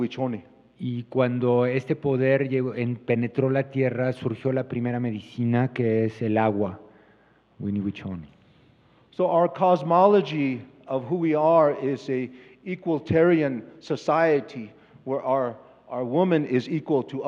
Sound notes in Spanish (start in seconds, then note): 0.0 Expositor habla en inglés; 8.5 Expositor habla en inglés